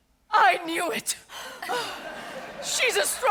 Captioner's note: audience laughs